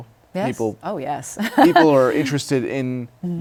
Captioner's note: laughs